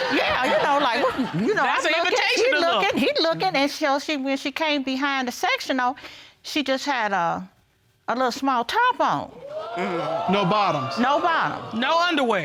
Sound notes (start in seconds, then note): 7.0 audience exclaims